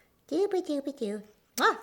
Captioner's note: loud kiss